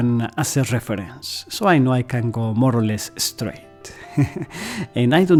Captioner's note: laughter